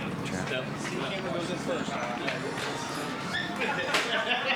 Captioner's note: chatter